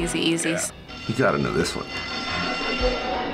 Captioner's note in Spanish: timbre de la escuela